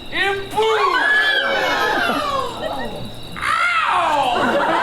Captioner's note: lovers scream